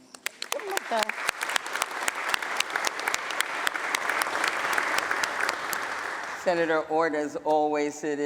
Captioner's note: applause